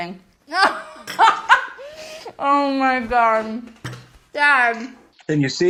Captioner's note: laughs